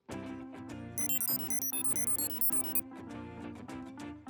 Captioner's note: beeping